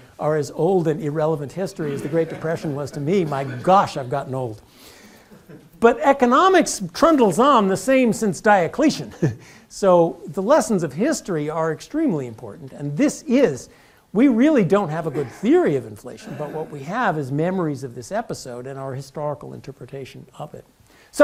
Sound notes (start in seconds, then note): 9.0 laugh